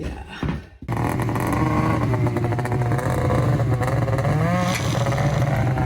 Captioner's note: engine roaring